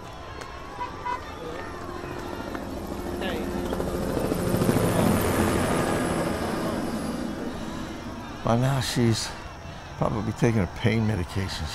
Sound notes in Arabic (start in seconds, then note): 0.2 خطوات عالية; 2.0 شفرات المروحية تدور